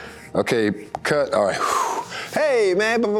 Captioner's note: breathes out